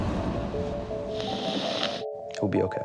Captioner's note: suspenseful music; sniffling